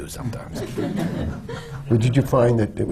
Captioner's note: laughter